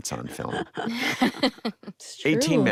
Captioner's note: all laugh